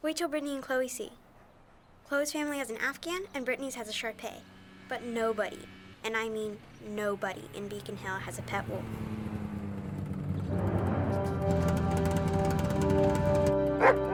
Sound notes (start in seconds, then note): 9.2 snowmobile approaching; 10.4 dramatic music